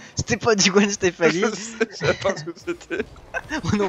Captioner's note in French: Entre deux éclat de rire